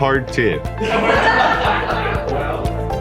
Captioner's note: laughter